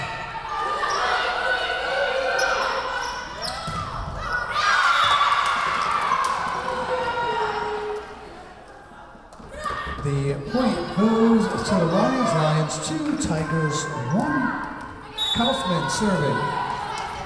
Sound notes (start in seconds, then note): 2.9 whistle blowing; 4.2 crowd cheering; 15.1 whistle blowing